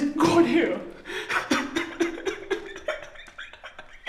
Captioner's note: maniacal laughter